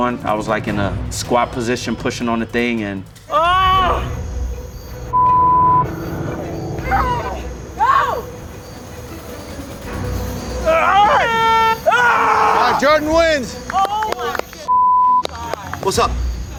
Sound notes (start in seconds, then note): 5.1 beep; 7.8 teammate screams; 10.6 screams; 10.6 horn honks; 14.7 beep